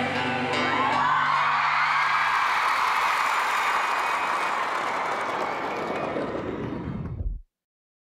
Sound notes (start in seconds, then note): 0.1 cheering